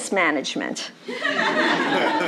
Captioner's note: laughter